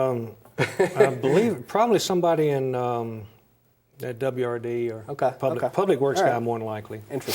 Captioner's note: laughs